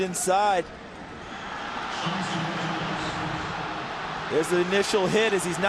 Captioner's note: crowd cheering